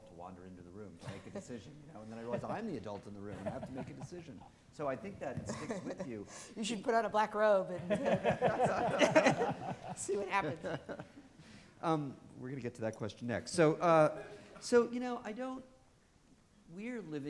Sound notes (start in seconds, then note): 11.3 all laughing